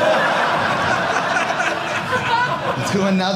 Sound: audience laughing

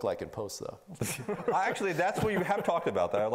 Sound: laughing

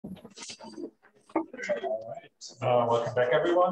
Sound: background chatter

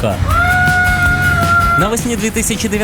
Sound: screams

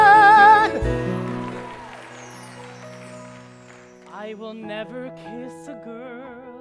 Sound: applause

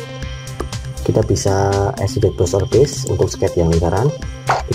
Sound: click

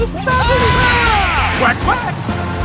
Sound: screaming

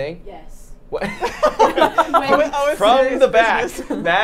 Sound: all laughing

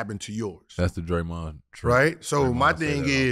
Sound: conversing quietly

